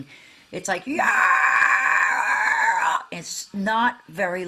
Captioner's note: screaming